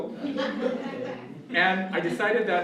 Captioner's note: laughter